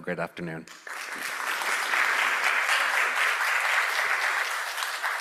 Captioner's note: audience applauding